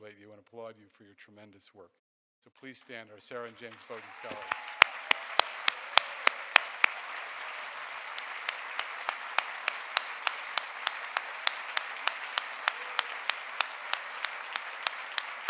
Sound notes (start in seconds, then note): 4.9 audience applauding